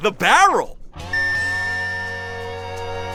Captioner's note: beeping